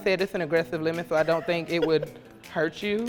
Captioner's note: laughs